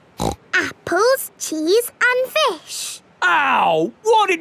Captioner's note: snorts